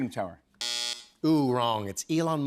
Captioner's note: buzzer